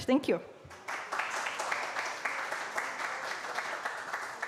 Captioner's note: applause